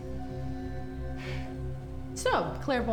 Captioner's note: Claire sighs